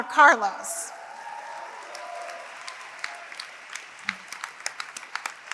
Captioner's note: applause